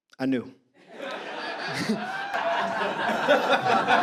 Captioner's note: audience laughter